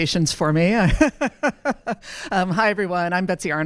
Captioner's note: laughter